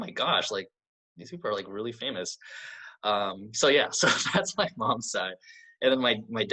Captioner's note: laughs